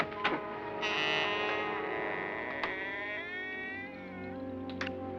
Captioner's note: doors creaking